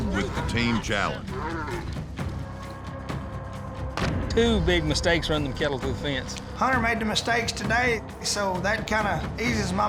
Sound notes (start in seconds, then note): 1.2 mooing